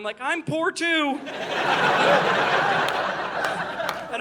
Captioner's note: audience laughing